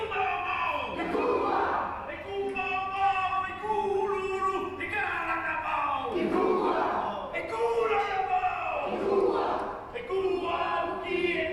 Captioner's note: chanting